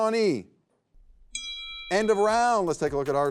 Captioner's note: bell rings